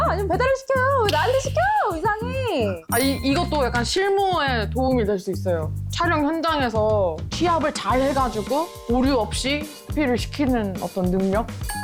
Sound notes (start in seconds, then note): 2.9 Part of the job sound effect